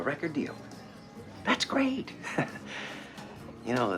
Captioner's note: chuckles